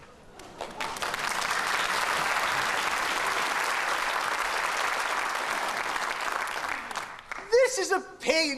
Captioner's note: applause